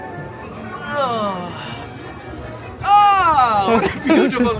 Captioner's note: groans